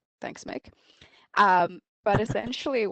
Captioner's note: chuckles